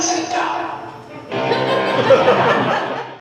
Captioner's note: laughter